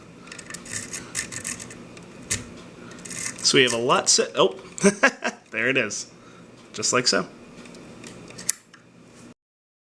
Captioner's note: laughter